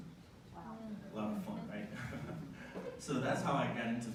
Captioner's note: laughter